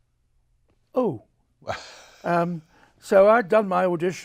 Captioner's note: chuckles